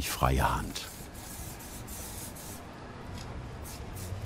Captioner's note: hissing sounds, rushing traffic